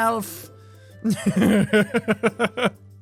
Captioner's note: giggles